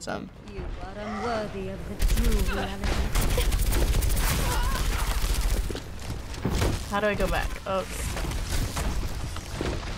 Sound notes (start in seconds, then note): 1.9 gunfire and grunting